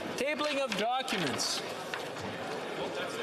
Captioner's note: applause